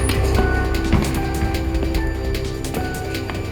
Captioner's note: door squeaking